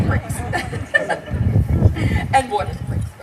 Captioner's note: laughter